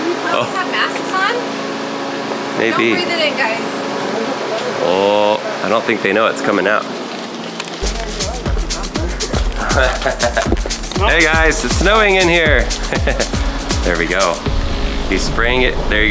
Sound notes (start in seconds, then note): 7.8 funky dance music; 8.5 laughs